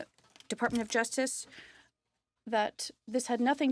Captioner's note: speaking French